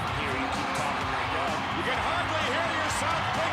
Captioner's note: audience cheering